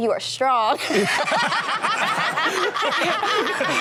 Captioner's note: all laugh